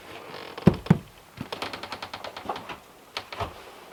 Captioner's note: door creaking